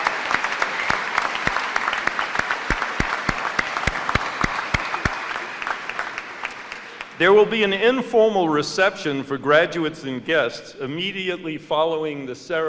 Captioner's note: applause